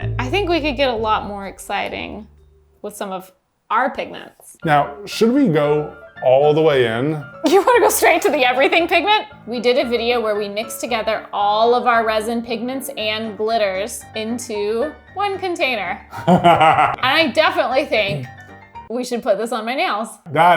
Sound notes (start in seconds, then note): 16.1 laughing